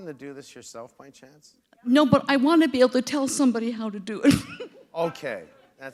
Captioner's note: chuckle